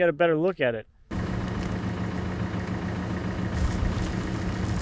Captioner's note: engine revving